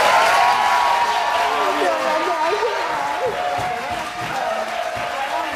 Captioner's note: crowd cheering drowns out talking